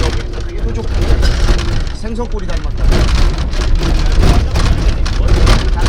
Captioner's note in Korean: 흔들리는 소리